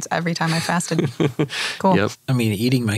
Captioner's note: laughs